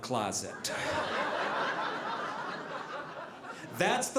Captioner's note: audience laughing